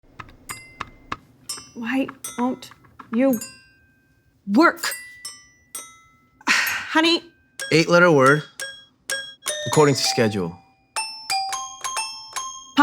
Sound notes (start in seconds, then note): 6.4 woman sighs